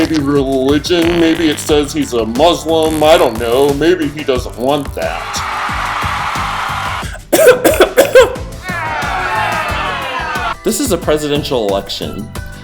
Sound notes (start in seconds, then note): 5.6 applause; 7.1 cough; 8.6 boo